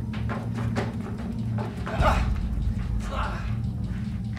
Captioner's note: gasps